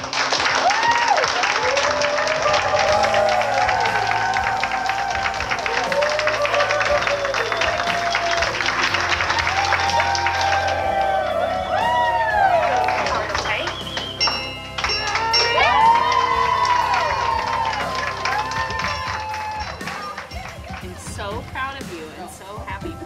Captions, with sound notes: (staff applause) (bell ringing) (staff cheering) - So proud of you and so happy for you.